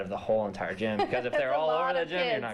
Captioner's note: laughter